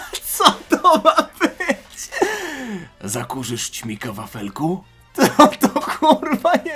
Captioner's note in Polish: śmiech